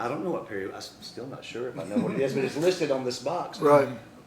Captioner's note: laughter